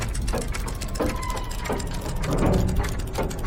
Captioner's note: brakes screeching